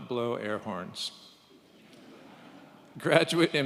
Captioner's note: audience chuckles